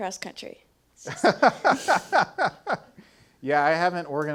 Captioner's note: laughing